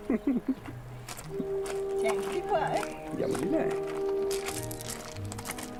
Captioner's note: man speaking native language